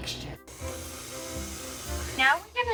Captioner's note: mixer buzzing